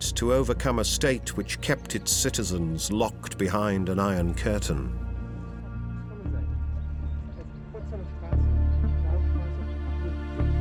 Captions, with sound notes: to overcome a state which kept its citizens locked behind an Iron Curtain. [quiet chatter in German]